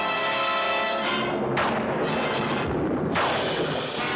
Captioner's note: thunderclap